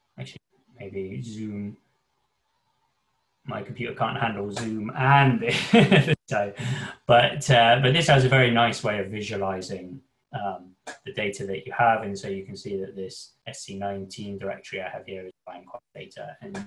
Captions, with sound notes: actually maybe Zoom, my computer can't handle Zoom. And this, (laughs) but this has a very nice way of visualizing the data that you have. And so you can see that this SC19 directory I have here occupying a lot of data